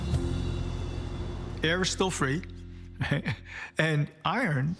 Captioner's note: laughs